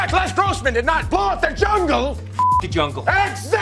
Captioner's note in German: piepst